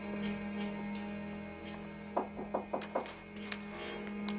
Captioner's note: knocking on door